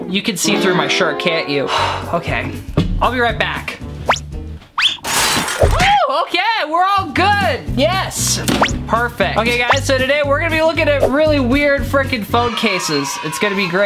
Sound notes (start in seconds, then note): 4.0 whooshing; 5.0 crashing; 12.4 kids cheering